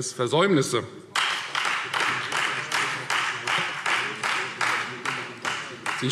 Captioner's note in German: Beifall Freie Demokraten